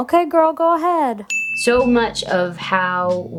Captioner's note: bell dinging